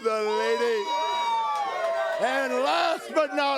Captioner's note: crowd cheering